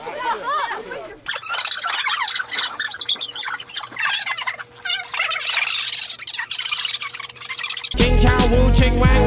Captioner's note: sped up bickering